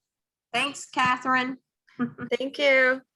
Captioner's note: laughs